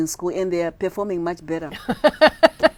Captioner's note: laughing